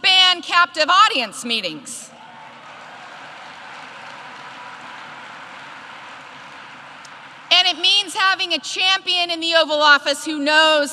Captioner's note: applause